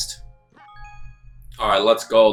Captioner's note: game chimes